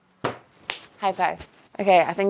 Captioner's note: hands clapping